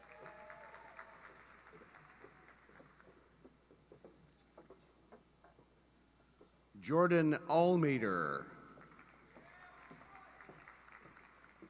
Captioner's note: applause